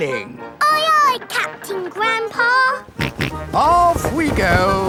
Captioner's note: snorts